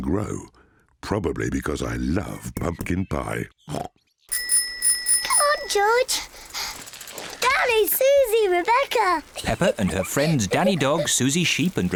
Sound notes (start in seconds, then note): 2.7 snorts; 4.3 bicycle bell rings